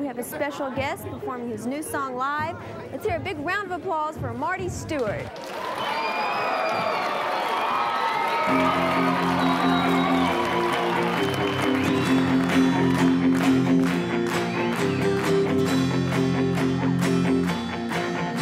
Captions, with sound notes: we have a special guest performing his new song live. Lets hear a big round of applause for Marty Stuart. (applause) (crowd cheering) (rhythmic rock music)